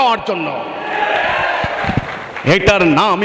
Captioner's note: clap